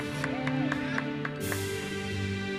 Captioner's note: attendees cheering; uplifting music continues